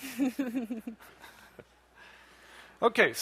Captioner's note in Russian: смеётся